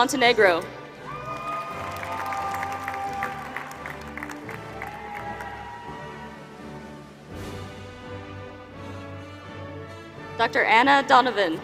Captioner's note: applause